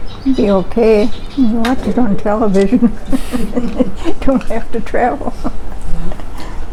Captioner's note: chuckles